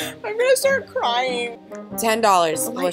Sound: laughs

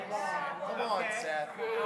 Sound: congregants bustling

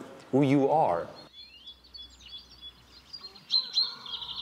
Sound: birds chirp

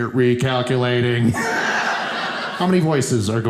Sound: audience laughing

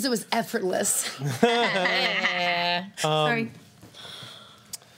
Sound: laughing and groaning

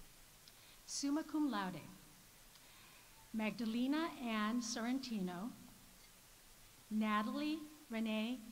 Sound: none

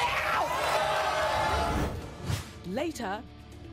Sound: audience boos and yells

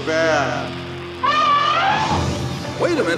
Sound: elephant horn

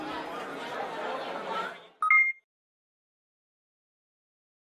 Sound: beep

